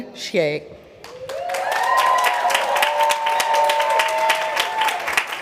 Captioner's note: applause